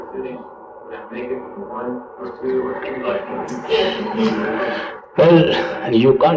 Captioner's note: laughter